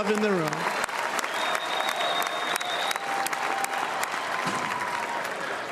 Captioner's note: cheers and applause